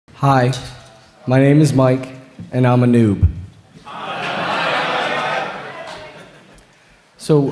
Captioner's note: laughter